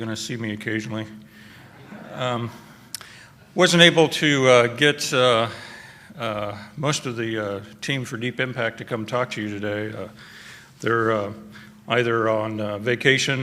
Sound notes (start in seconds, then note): 1.6 laughter